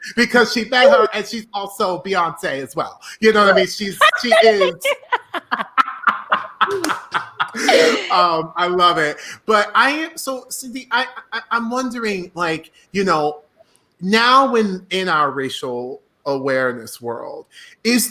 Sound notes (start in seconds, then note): 5.7 laughing